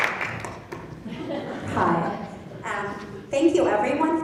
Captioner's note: laughing